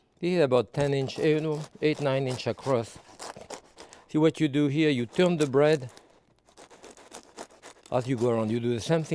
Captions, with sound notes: Here, about 10 inch, no, eight, nine inch across. See what you do here? You turn the bread (bread crunching) as you go around.